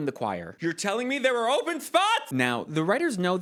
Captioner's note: yelling